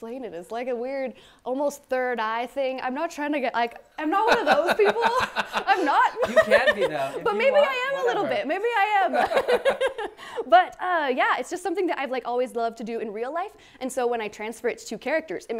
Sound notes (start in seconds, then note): 4.2 laughs